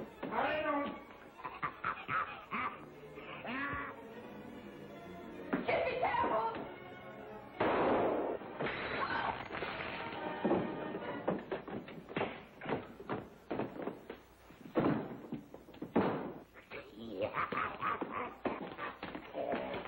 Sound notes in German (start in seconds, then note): 8.9 schreit; 16.5 lacht